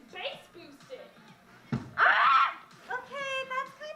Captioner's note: bang! Squak!